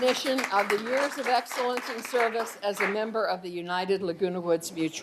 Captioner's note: applause